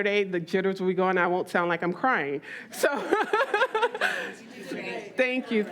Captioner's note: laughs